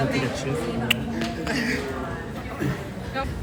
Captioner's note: laughs